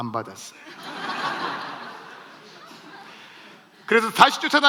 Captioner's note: laughs